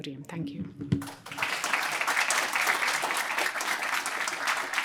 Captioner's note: applause